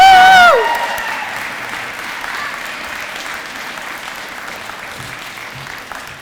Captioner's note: applause